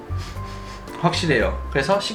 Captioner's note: sniffs